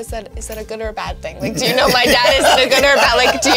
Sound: laughs

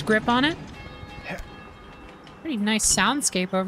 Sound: distant Bell Ringing

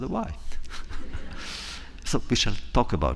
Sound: laughter

